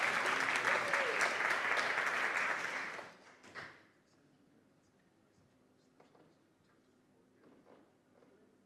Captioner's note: applause